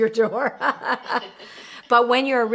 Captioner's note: laughing